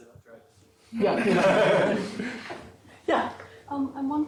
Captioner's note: laughter